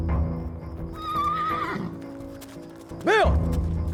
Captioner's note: horse neighs